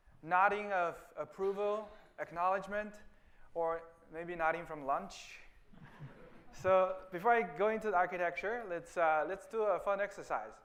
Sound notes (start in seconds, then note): 5.7 laughter